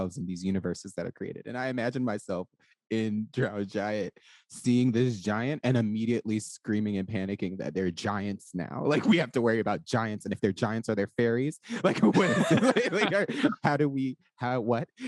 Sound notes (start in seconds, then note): 8.9 laughs; 11.7 all laugh